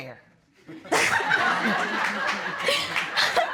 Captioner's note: laughter